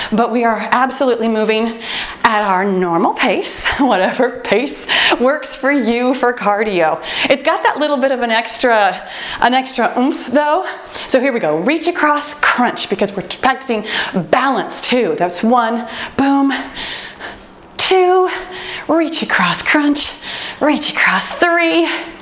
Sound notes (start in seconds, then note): 10.1 timer beeps